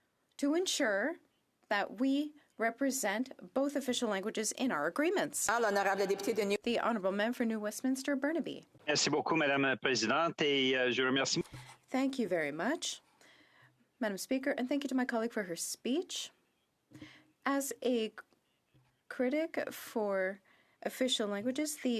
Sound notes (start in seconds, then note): 14.9 speaking French